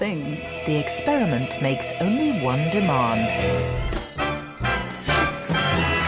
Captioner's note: voiceover